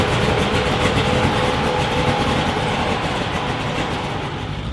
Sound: car rumbling

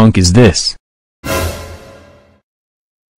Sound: dramatic sfx

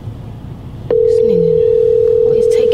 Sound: phone ringing

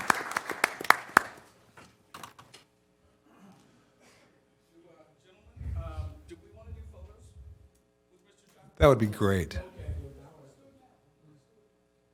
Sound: applause

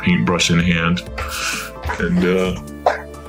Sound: breathes heavily, blood pressure spikes

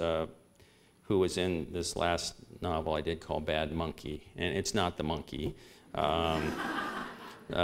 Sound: laughter

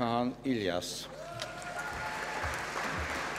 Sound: applause

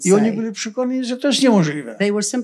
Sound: foreign language

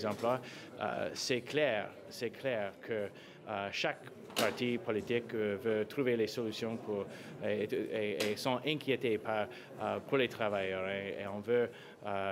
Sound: speaking french

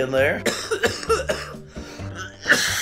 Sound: coughing

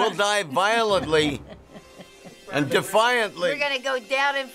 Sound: chuckling

